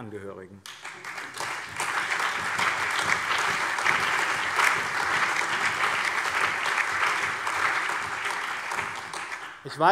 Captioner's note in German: Allgemeiner Beifall